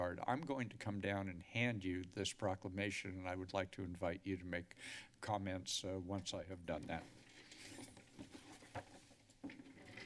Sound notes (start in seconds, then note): 4.7 inhales; 7.2 chair squeaking; 7.3 paper rustling